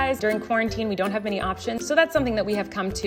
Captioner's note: none